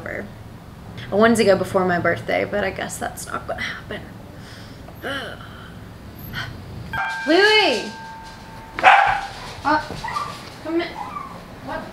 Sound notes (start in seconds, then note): 6.9 door bell chimes; 8.8 dog barking